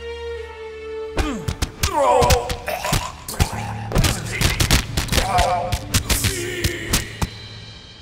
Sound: punches and painful grunting

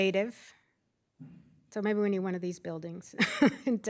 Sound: laughter

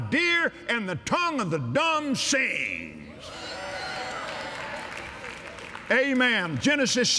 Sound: cheers & Applause

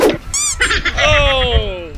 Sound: timer counting down; squeak; laughing

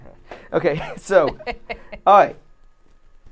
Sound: laughs

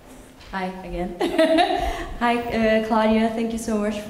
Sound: laugh

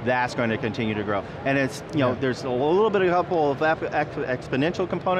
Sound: stuttering

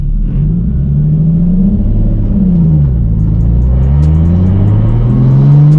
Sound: car engine revving

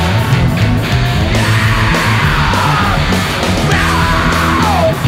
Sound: wails; upbeat hard rock music continues

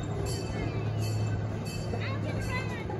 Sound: train bell clanging

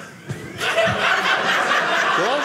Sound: audience laughing

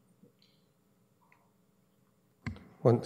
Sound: audio drop

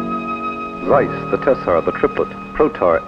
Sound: voiceover

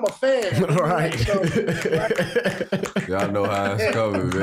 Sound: Shumpert brothers snapping fingers

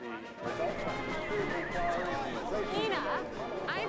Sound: band playing; announcer chattering

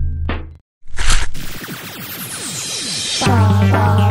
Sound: lazer shooting

